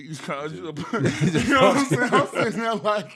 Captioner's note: laughing